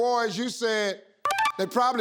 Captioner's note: machine beeping